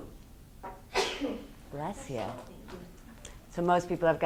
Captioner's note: student sneezes